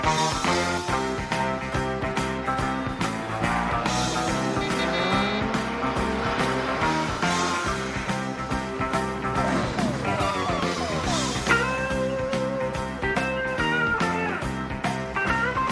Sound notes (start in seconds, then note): 3.4 horn Honks